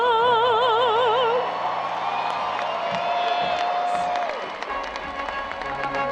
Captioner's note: audience cheering and applauding; instrumental music